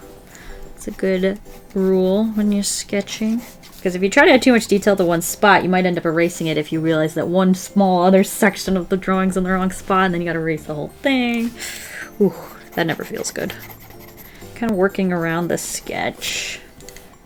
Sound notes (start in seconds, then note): 14.2 deep inhale